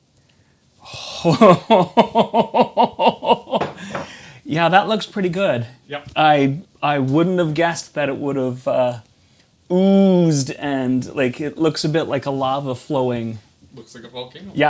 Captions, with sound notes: Oh. (laughs) Yeah, that looks pretty good. I wouldn't have guessed that it would have oozed and it looks a bit like a lava flowing. Looks like a volcano.